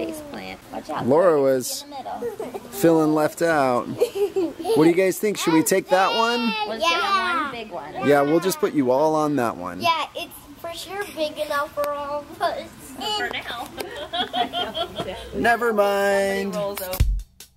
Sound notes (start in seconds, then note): 3.6 kids giggling; 13.4 laughs